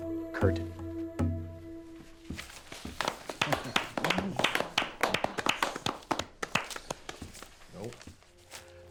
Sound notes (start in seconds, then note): 2.7 players applauding